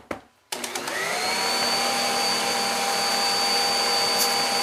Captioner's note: mixer whirs